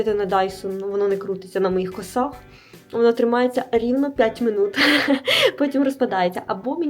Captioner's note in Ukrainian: сміх